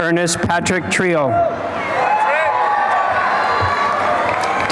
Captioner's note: applause and cheering